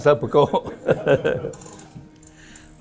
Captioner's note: laughs